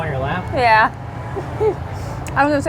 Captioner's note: laughs